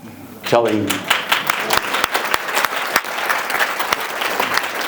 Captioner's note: audience applauds